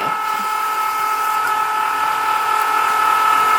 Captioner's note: machine buzzing